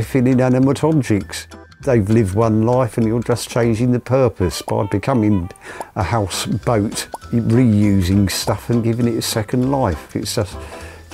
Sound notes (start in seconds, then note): 6.8 popping